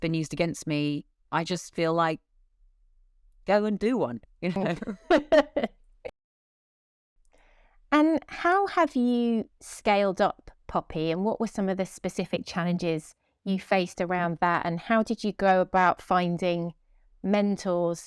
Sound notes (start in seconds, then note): 4.6 both laugh